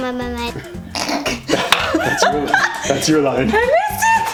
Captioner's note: laughing